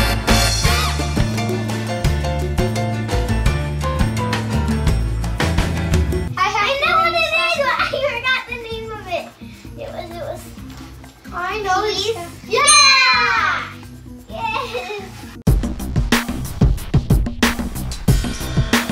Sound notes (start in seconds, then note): 0.0 Latin music; 12.6 ding; 15.5 fun music